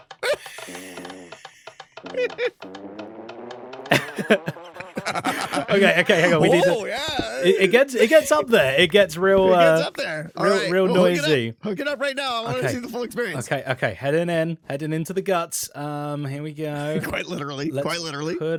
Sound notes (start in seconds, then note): 0.2 laughs; 2.9 fart in higher pitch